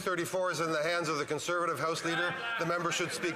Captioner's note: some Applause